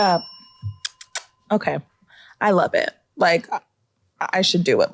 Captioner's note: kisses